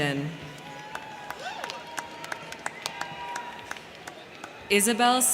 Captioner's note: crowd cheering; crowd clapping